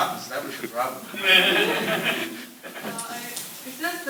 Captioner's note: laughter